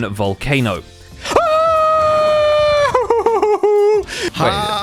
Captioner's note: frightened noises